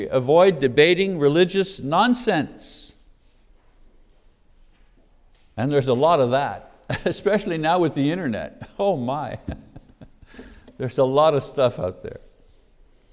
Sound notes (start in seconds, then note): 9.3 laughs